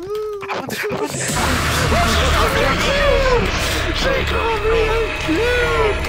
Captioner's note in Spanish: llorando